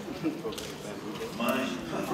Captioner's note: laughter